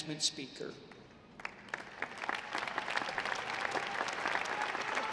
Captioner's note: audience applauding